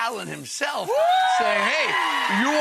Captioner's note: Rachael and audience cheering